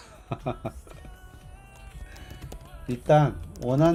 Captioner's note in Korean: 웃음